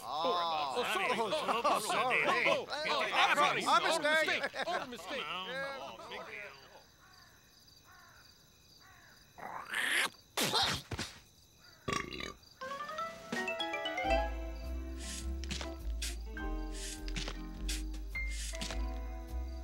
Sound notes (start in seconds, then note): 10.4 splutters; 11.8 muffin belches; 14.6 soft instrumental music